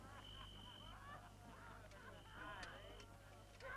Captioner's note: guards reveling